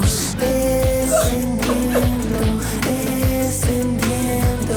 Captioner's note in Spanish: Sollozos